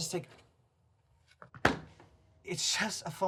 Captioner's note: hitting the door